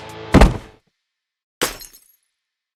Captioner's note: kick!